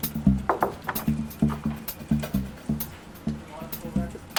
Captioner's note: knuckles rapping